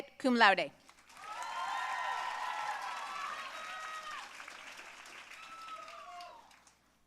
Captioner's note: audience cheering and applauding